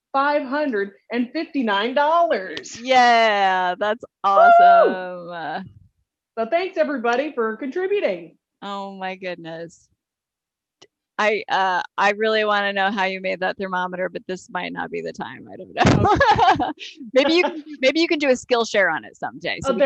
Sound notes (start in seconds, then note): 4.5 cheering; 15.8 laughs